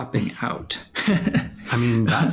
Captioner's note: laughs